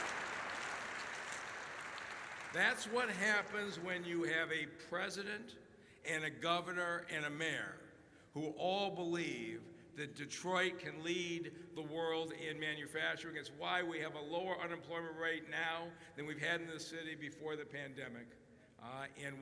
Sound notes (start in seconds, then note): 0.0 applause